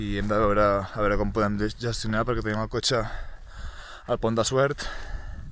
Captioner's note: sighs